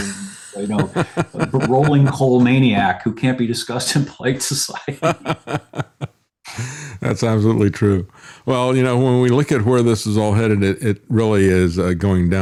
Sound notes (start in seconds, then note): 4.7 laughing